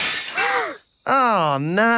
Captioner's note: shatters